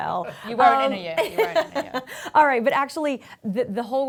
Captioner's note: laughs